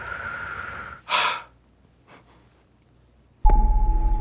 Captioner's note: exhaling shakily; exhaling sharply